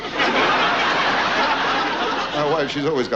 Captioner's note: audience laughs